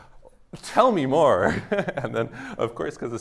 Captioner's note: laughter